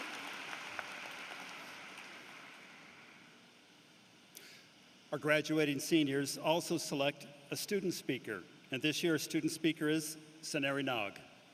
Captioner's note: applause